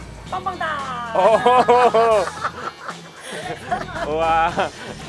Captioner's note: laughing